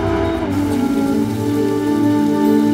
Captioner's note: Door opens